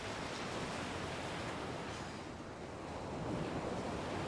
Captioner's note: waves crashing